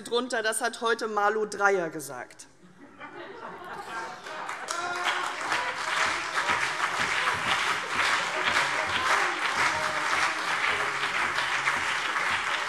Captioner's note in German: Heiterkeit und Beifall CDU und BÜNDNIS 90/DIE GRÜNEN